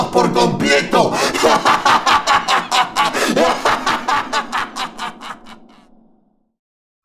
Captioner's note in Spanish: Risa malvada